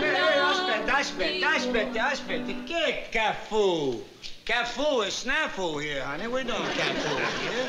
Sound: speaking italian

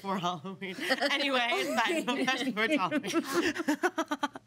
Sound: girl laughs

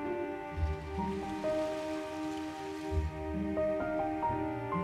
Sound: sounds of waves

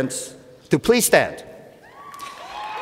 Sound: cheers and Applause

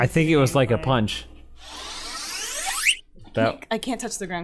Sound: energy charging sound

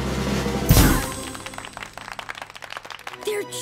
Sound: drumroll; clapping

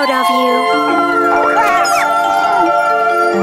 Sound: chicken mermaid continues vocalizing

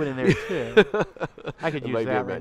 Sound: laughing

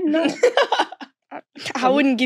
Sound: laughing

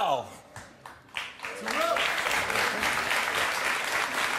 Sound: audience claps

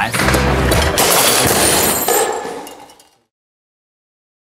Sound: desk crashing

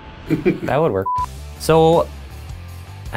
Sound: laughs; beep

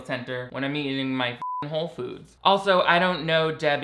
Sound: beep

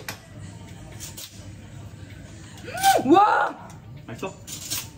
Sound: sharpening a knife

